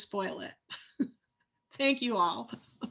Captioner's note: laughs